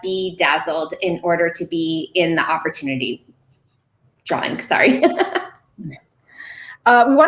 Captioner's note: laughing